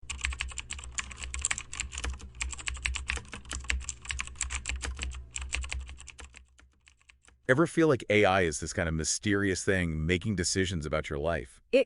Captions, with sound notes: [TYPING] Ever feel like AI is this kind of mysterious thing making decisions about your life?